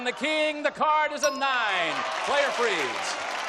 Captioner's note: applause